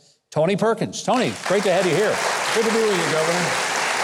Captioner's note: audience applauds